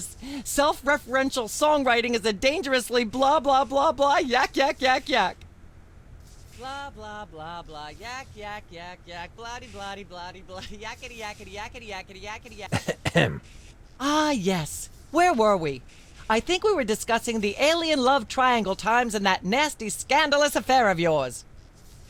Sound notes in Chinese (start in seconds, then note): 12.7 清喉咙